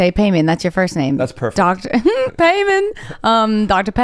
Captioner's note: chuckles